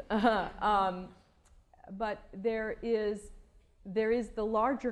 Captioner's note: laughter